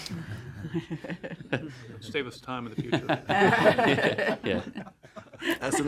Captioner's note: laughter